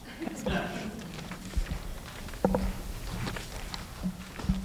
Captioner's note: light laughter